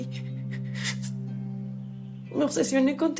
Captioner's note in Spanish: Sollozos